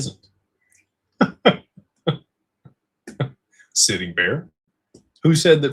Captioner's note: laughter